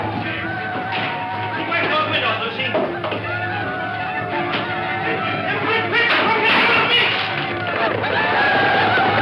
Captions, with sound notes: - You wait here on us, Lucy. (yells)